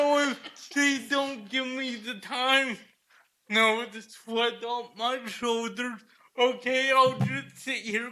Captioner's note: laughter